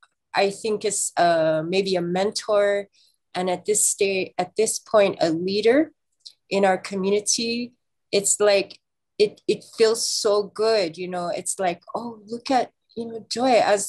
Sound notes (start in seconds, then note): none